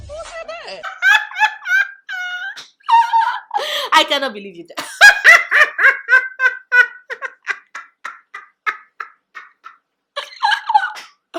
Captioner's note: laughing; laughs more